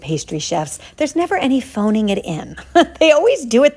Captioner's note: chuckling